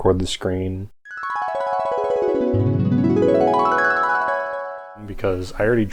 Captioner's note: flashback noises